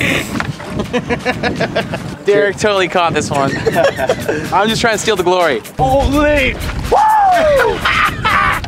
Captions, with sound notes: [Laughs] Derrick totally caught this one. I'm just trying to steal the glory. Whoooo